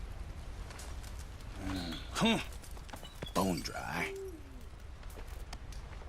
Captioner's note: the stranger grunts and throws his empty bottle